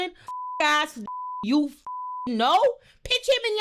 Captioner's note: beep